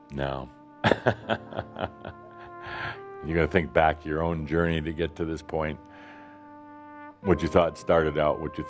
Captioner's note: chuckles